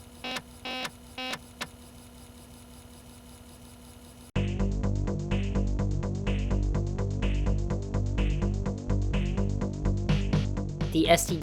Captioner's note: disk drive crunching data